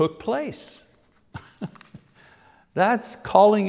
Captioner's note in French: rire